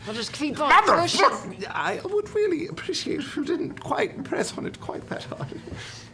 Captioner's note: pained